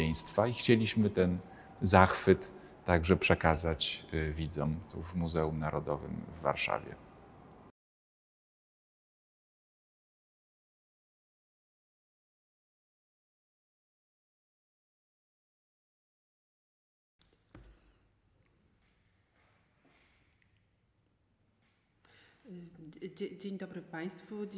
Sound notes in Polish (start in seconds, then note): 7.0 cisza